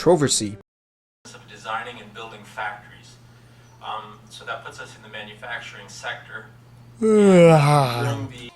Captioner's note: yawn